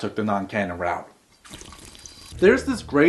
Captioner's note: drinking through straw